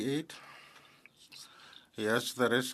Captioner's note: speaking French